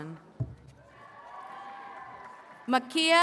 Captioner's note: attendees cheering and clapping